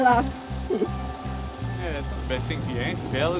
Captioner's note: laughs